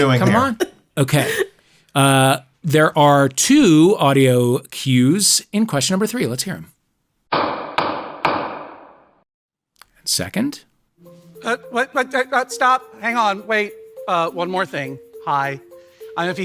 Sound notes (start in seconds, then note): 7.3 gavel banging